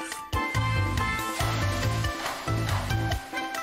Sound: sizzling

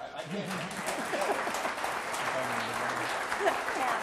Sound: audience applause

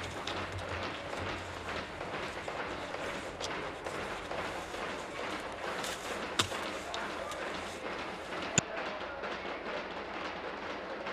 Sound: tapping on desks

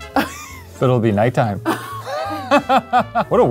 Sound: laughs

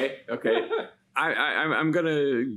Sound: giggles

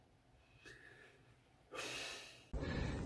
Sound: heavy sigh

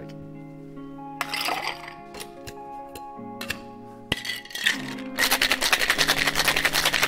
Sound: slow jazz music continues; ice rattling

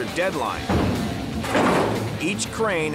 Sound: metal clanging

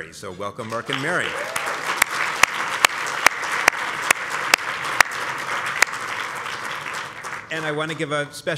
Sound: applause

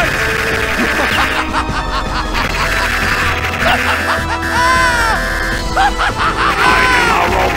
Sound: more insane laughter

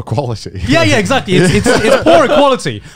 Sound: laughing

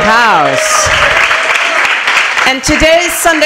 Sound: applause

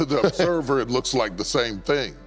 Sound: Steve laughs

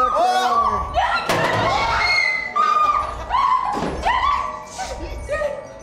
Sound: screams

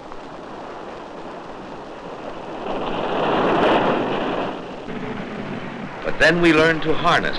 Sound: waves crashing

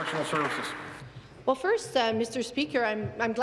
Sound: applause

